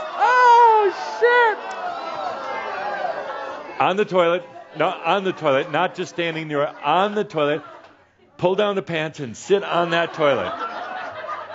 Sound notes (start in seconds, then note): 2.4 audience is saying, “Ohh!”